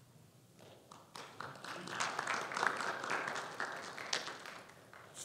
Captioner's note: conference applauding